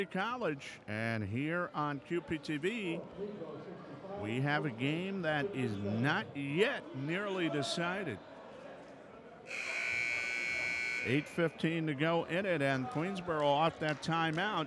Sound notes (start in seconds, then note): 9.4 buzzer buzzes